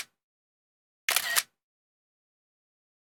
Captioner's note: camera clicking